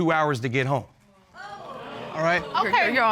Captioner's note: audience gasping